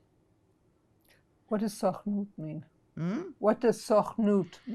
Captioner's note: hebrew